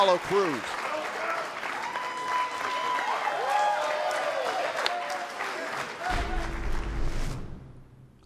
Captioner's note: crowd cheering